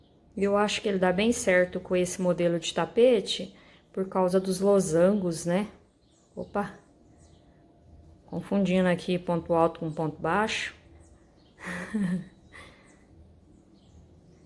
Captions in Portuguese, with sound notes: e eu acho que ele dá bem certo com esse modelo de tapete por causa dos losangos né? Opa, tô confundindo aqui ponto alto com ponto baixo (risos)